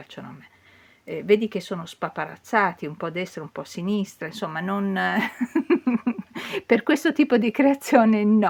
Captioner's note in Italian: risate